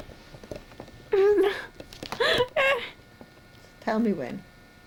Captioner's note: both laugh